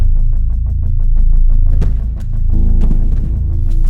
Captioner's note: thudding